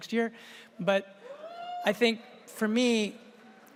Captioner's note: audience cheers